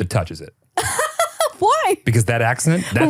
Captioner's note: laughs